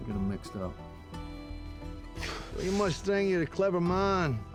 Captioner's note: exhales; scottish accent